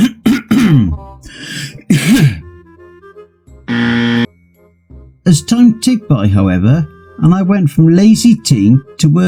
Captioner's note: clears Throat